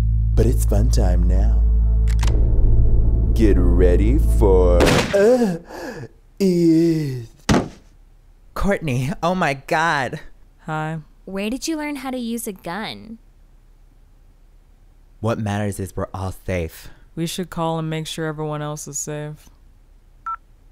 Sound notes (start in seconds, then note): 2.1 gun clicks; 4.8 gun fires; 7.4 thump